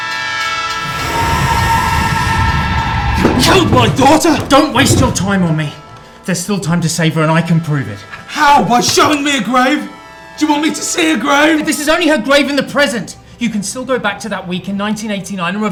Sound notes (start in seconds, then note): 0.0 train screeching